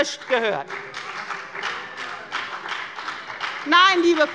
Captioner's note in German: Beifall bei der FDP - Zurufe von der SPD und der FDP